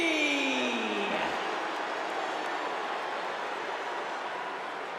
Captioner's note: audience cheering